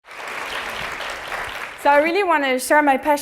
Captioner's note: applause